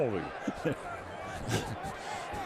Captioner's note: laughs